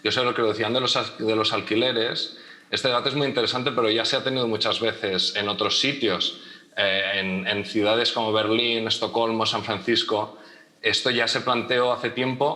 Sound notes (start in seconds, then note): none